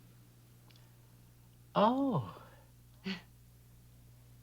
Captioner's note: giggles